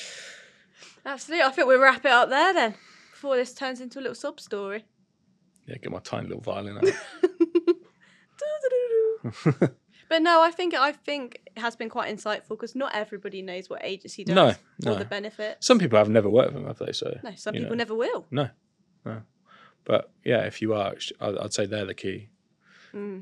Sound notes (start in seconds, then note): 6.8 laughs; 8.7 hums; 9.2 laughs